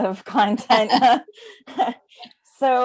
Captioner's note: chuckles